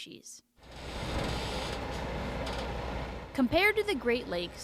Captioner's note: metallic creaking